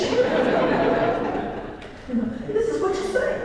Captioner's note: laugh